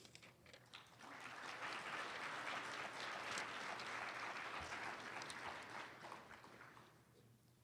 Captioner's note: applause